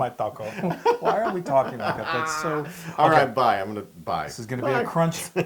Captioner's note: laugh